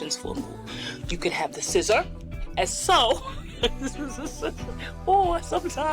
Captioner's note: laughs